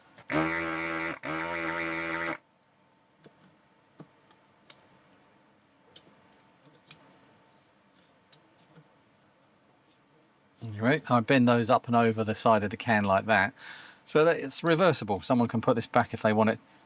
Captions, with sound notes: (Buzzing) (Clicking) Right, I've been those up and over the side of the can like that. So that it's reversible. Someone can put this back if they want it